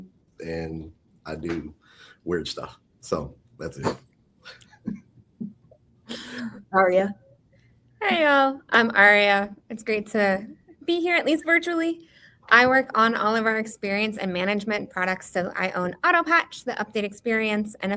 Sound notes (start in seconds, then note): 4.5 laughs